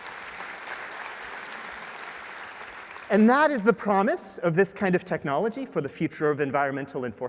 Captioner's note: applause